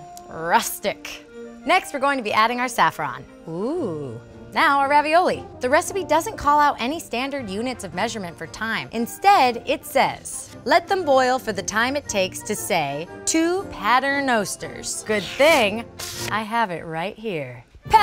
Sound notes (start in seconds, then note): 0.0 hums thoughtfully; 3.5 exclaims in awe